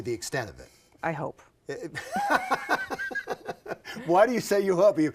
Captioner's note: both laugh